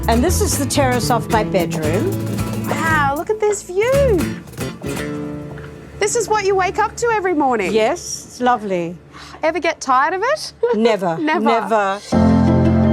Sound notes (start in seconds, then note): 10.6 chuckles